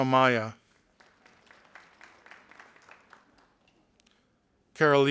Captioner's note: audience applauding